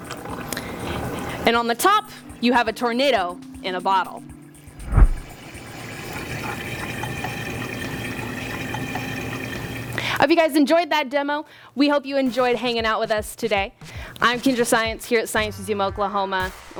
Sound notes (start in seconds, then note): 4.5 water dribbling